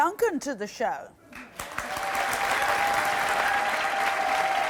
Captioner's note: audience cheering